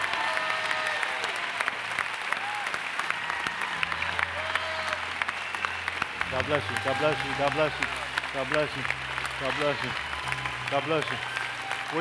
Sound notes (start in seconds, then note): 3.1 applause